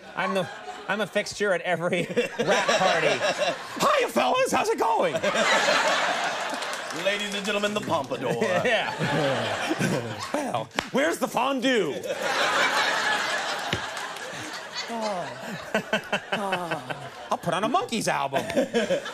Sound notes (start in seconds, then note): 2.8 all laughing; 5.3 all laughing; 9.7 all laughing; 11.8 all laughing; 15.1 Katt exhaling; 16.4 Conan laughing; 18.2 audience laughing